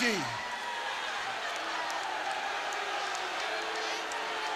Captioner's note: audience booing